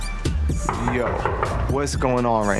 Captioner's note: knocking door